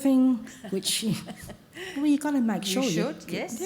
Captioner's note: laughter